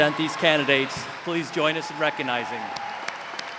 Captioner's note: cheers and applause